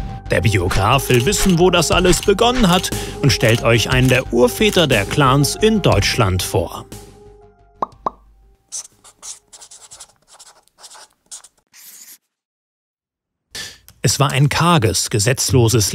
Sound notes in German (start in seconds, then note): 7.8 Ploppgeräusche